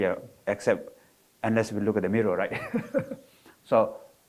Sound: laughs

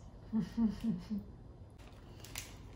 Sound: laughs under her breath

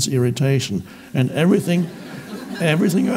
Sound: audience laughs

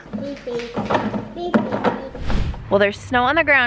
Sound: toy banging

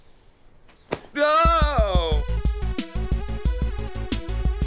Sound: slap noise

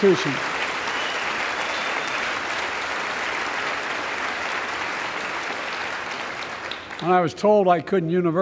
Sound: applause

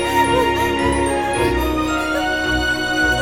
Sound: cries

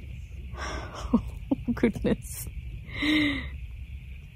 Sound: chuckles nervously

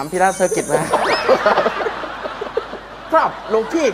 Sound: laughter

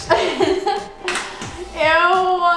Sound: laughs

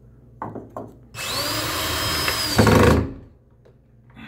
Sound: whirring

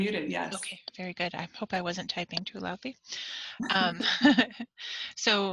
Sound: laughs

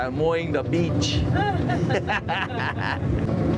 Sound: both laughing

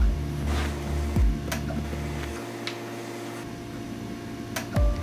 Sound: clicking; machine whirring

